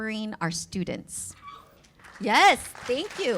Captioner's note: cheers